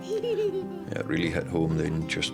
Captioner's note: kid laughs